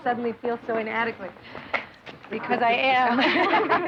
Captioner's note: laughing